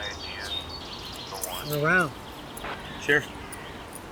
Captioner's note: handcuffs clink